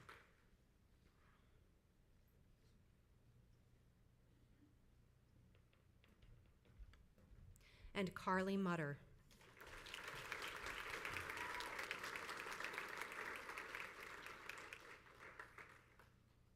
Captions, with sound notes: And Carly Mutter. (crowd applauds)